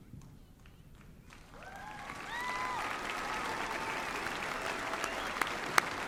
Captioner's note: applause and cheering